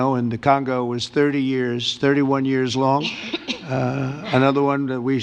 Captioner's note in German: hustet